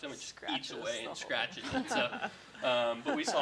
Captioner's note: laughing